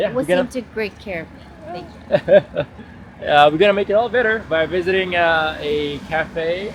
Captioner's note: laughter